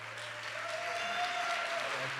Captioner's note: applause